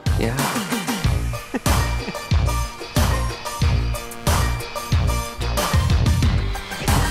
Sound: light chuckles

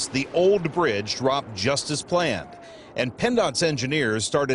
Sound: explosion sound

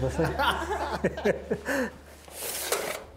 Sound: all laughing

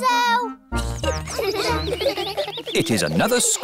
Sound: children giggling

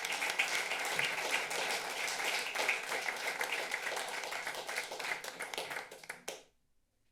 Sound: applause

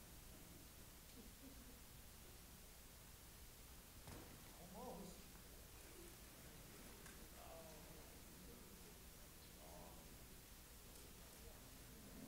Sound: laughter

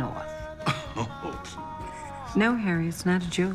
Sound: scoffs

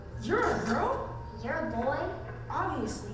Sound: voiceover

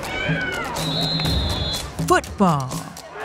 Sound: whistle blowing

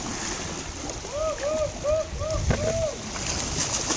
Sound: cheering

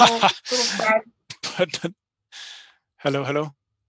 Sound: laughing

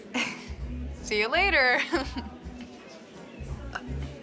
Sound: laughs

